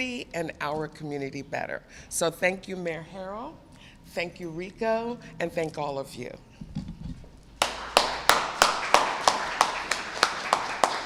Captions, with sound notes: and our community better. So thank you, Mayor Harrell, thank you, Rico, and thank all of you. [ Applause ]